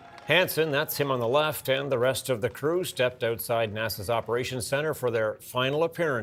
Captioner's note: applause